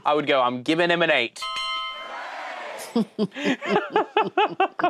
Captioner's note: all laughing